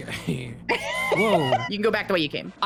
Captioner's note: laughs